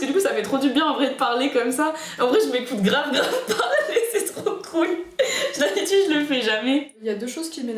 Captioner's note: laughter